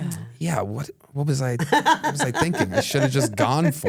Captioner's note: laughs